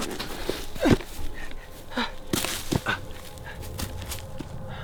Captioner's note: gasping; panting; eerie music